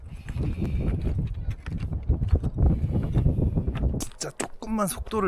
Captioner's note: catching my breath frequently